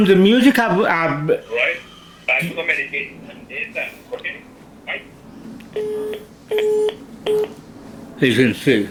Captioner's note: hangs up phone